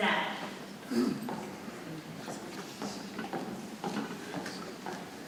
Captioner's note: people chattering softly